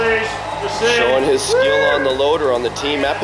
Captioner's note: cheers